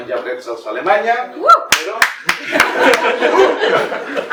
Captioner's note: person 1 shouts and claps; laughter